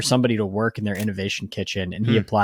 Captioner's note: screen clicking